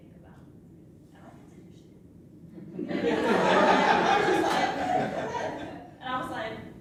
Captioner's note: laughter